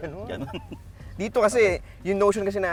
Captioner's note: chuckles